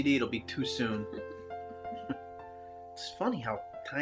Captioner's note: chuckles